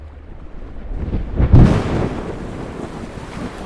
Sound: lightning sound

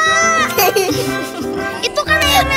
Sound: laughing

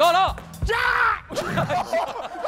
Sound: screaming

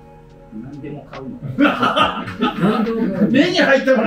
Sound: laughing

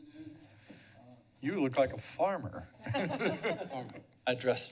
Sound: laughter

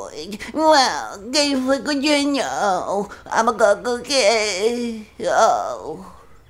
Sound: mumbles

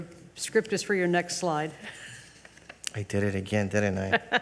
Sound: chuckles; chair laughs

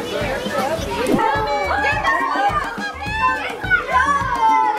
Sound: excited chatter

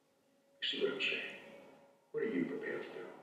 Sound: voiceover

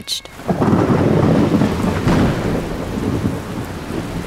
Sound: thunder crashing

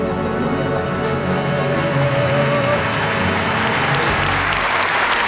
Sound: audience applauding

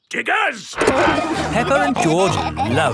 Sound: peppa and george laughing

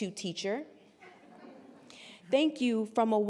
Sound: scattered laughter

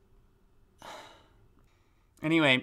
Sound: small sigh

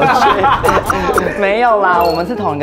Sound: inhale

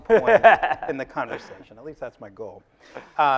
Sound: laughing

